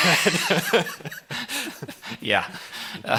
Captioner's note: laughs